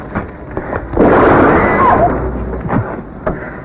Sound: gun shot

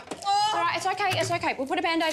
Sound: moaning

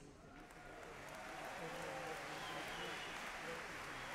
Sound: audience cheers and applauds

